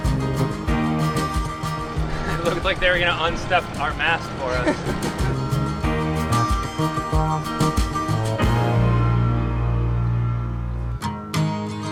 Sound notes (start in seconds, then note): 4.9 chuckles